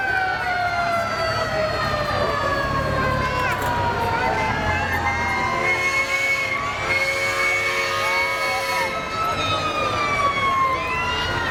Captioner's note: siren